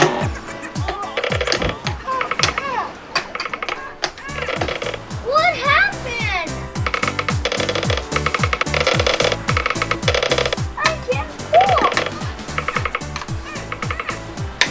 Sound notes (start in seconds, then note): 1.7 child struggling; 8.5 creaking